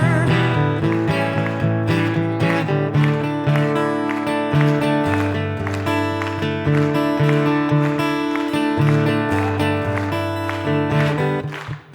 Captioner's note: acoustic guitar; audience claps; rhythmic clapping